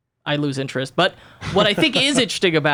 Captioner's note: laughs